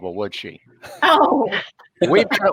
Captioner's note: laughing